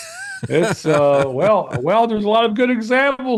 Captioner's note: laughing